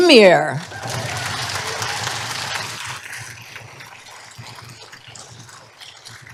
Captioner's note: applause